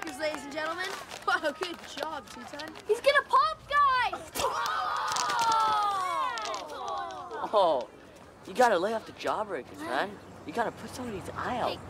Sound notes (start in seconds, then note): 4.4 all Screaming